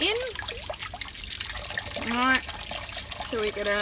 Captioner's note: water dripping